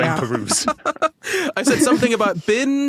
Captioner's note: laughs